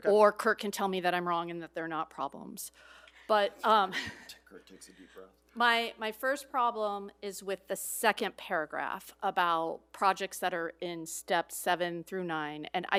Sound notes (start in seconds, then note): 2.8 breathes deeply; 3.4 laughs